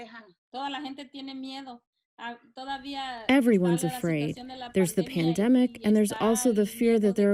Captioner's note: through translator